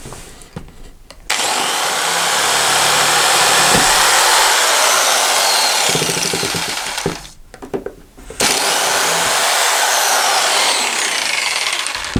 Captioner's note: rustling cardboard; roaring jigsaw